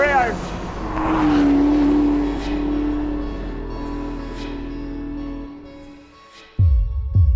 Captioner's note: engine rumbling; soft music